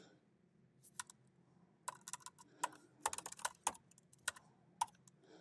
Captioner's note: keyboard clacking